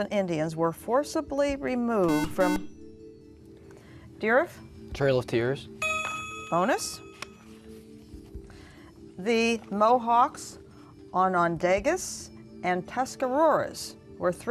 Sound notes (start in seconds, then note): 2.0 buzzer; 5.8 ding